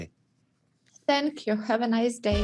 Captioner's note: on phone